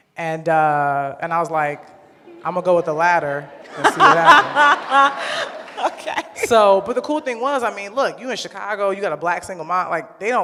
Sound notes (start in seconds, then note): 4.7 laughs